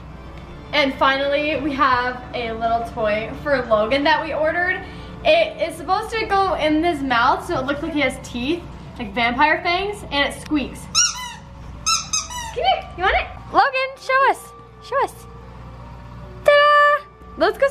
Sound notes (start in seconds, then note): 11.8 toy mouth squeaks